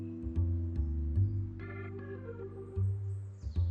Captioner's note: none